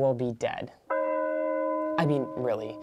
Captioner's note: church bell tolls